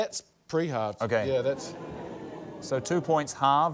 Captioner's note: audience 'ooh's